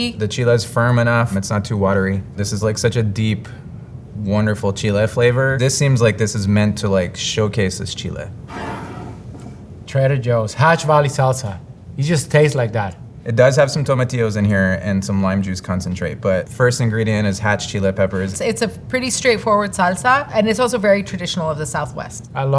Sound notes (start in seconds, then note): 8.4 jar sliding